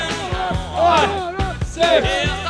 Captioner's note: rooks vocalizing